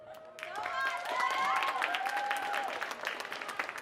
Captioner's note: audience cheering and applauding